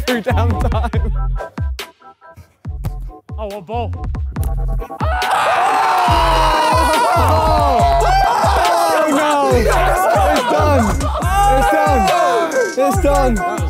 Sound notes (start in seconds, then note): 0.0 laughs; 5.0 group yells in unison